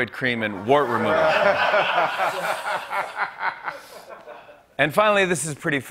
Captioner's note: laughter